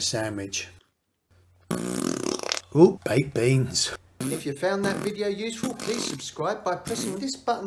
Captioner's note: fart noises